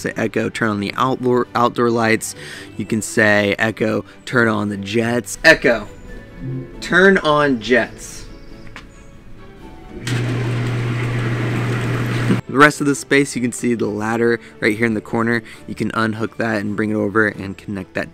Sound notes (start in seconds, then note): 9.9 hot tub jets running